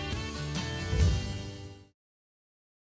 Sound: whoosh

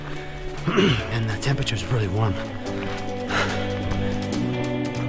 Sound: panting

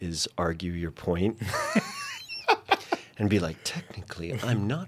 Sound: laughing

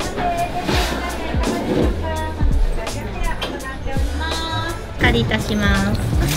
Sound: speaking foreign language

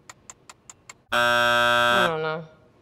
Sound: buzzer rings

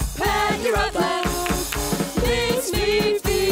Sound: clap clap clap

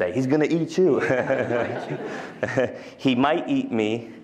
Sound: laughter

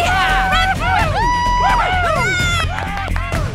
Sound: more Cheers

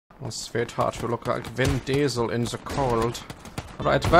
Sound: feminine German accent

